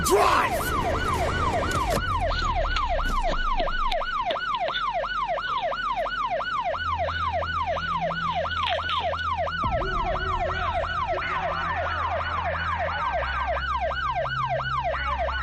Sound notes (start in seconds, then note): 0.2 siren wailing; 10.0 muffled voices screaming